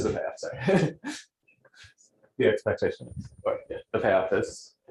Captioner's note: laughs